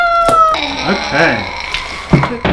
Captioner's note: groans